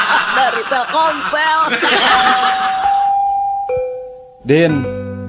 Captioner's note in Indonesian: tertawa